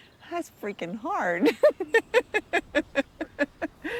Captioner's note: laughter